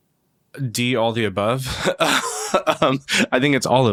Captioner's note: laughs